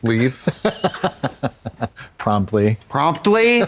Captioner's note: Katya chortles